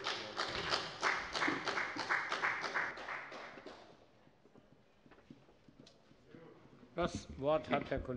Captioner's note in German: Beifall bei der FDP